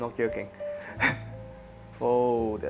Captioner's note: chuckles